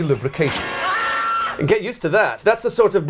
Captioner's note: scream